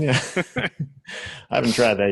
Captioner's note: laughs